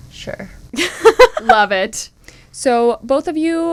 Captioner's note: laughter